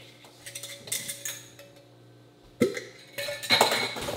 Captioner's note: spoons clanking